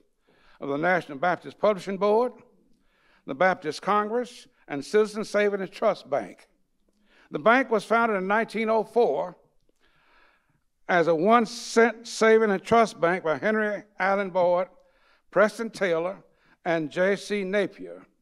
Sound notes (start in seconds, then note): none